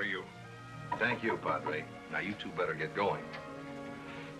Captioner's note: knocking at the door